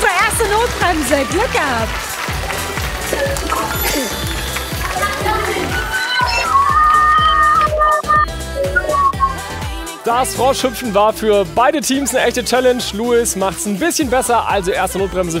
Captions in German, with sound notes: Unsere erste Notbremse. Glück gehabt. (Jubel) Das Froschhüpfen war für beide Teams schwierig. Erste Notbremse für die Frösche.